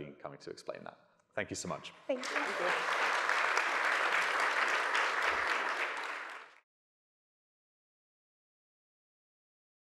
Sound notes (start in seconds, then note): 2.1 audience applauding